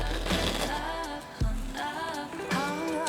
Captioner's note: heart pounding